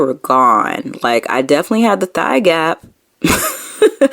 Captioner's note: laughing